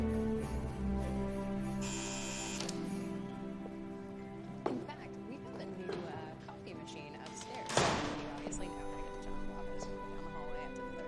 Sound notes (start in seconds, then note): 1.8 buzzer